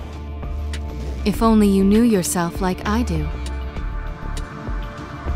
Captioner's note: voiceover